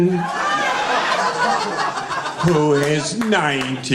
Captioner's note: laughing